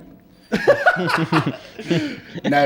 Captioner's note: laughter